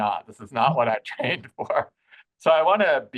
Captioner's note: laughing